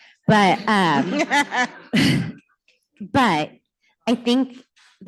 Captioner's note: laughter